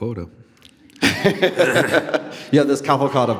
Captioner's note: laughing